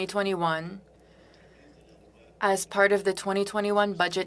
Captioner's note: speaking French